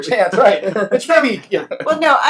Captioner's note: laughs